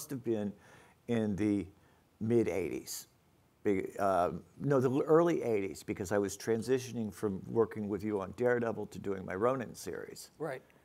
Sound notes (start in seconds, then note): none